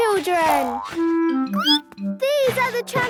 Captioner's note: squeaks